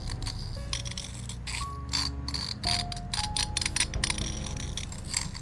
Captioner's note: scraping creak continues to echo